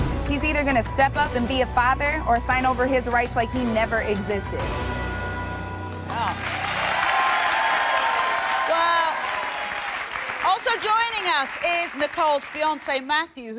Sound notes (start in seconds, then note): 6.0 audience applauding